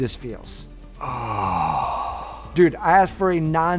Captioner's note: man exhales deeply